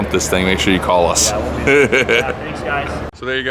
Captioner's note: laughing